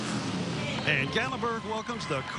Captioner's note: motors revving